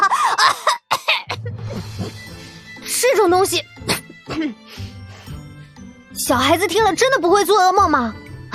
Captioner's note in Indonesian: Uhuk-uhuk